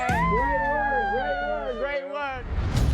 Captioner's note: overlapping chatter and shrieking